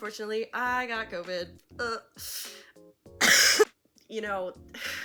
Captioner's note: coughs